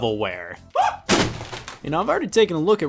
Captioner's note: cases clattering